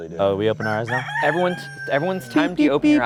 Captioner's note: rooster crowing